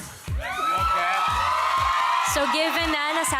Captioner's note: audience cheering